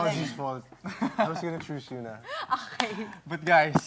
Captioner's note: chuckles